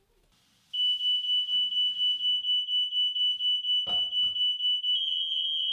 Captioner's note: fire alarm resonating